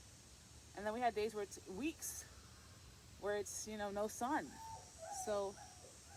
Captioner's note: rain